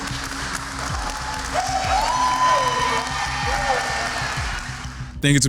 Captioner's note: cheering